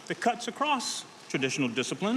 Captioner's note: none